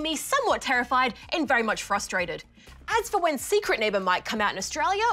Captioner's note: none